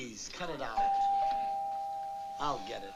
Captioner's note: doorbell ringing